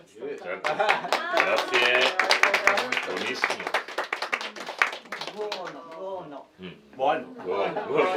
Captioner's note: applause